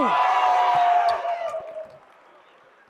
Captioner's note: applause